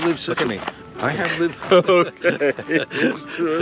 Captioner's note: Paul fake sobs